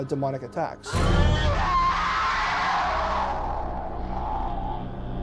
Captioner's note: screaming